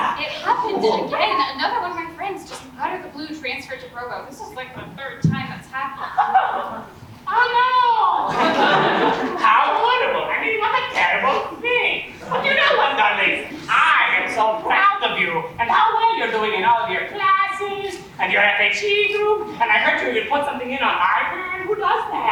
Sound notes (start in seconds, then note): 6.0 audience laughs; 7.3 sarcastic; 8.2 audience laughs